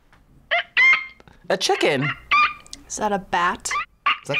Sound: animal squeaks

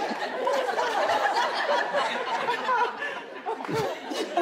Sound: audience laughing

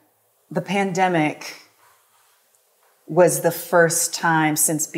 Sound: none

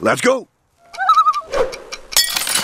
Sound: loon call

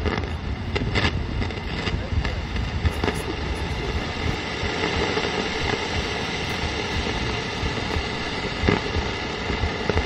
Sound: the sound of static

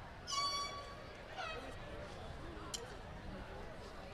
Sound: none

